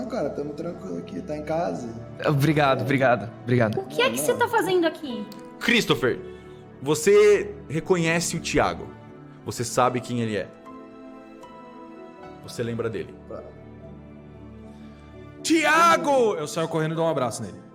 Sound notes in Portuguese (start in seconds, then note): none